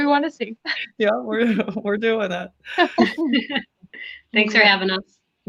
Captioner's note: laughter